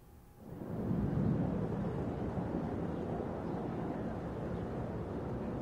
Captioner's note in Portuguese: vento soprando